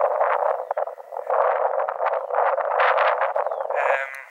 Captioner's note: intense wind